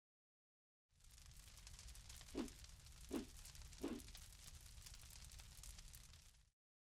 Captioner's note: fire crackling; air whooshing